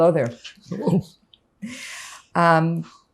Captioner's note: laughing